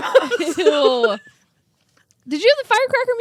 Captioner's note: laugh